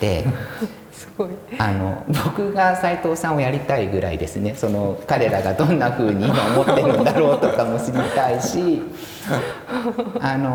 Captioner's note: laugh